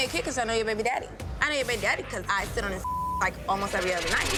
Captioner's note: beep